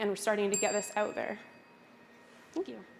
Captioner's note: bell dings